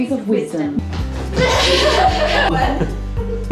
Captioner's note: running sounds, laughter